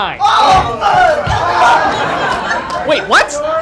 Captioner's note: yelling